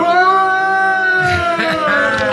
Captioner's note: screaming; people cheering; laughing